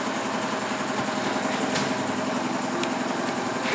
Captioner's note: rattling noise in the background